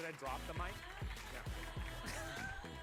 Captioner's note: applause